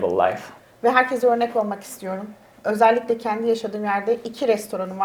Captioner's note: speaks in Turkish